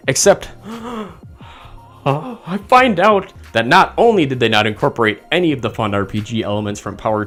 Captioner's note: gasp